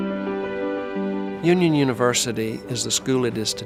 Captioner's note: voiceover